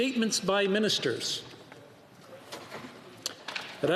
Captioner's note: speaking French